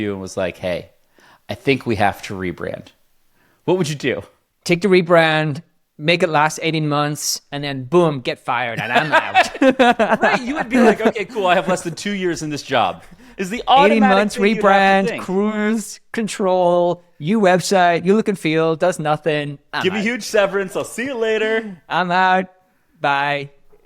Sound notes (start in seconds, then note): 8.8 both laugh